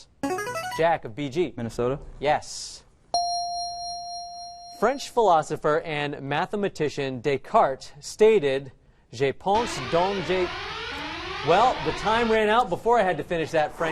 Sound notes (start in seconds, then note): 0.0 answer bell; 3.2 correct answer chime; 9.6 out of time alarm